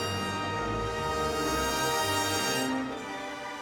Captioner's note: none